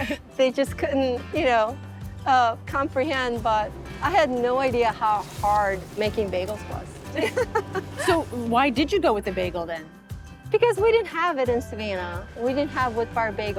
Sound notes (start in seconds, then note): 7.1 laughs